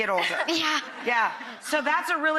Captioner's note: laughs